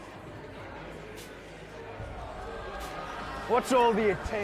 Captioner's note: crowd jeers